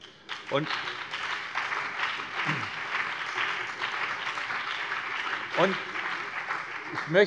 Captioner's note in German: Beifall BÜNDNIS 90/DIE GRÜNEN und vereinzelt CDU